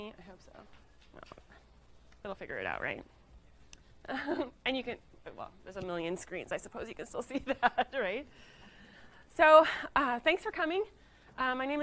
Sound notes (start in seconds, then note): 4.0 laughing